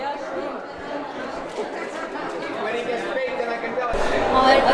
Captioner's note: indistinct chatter; people chattering